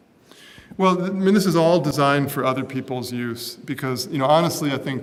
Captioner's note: none